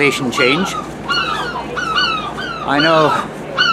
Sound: sea gulls squawk at me

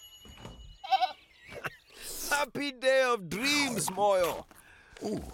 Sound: dinging; bleating; laughing

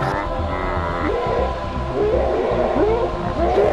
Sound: howling

